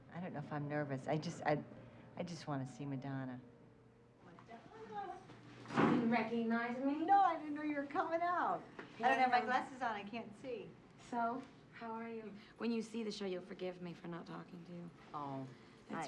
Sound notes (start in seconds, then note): none